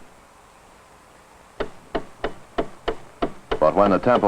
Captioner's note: rapid ticking